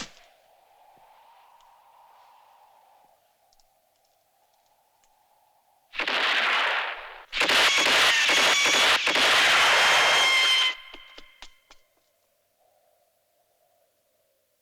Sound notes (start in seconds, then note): 6.0 gunshot